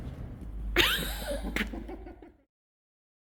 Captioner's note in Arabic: ضحك